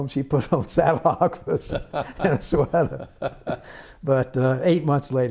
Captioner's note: laughter